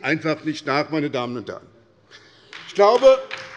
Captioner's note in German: Beifall bei der SPD